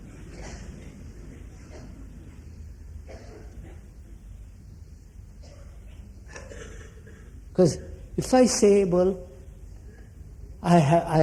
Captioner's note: laughter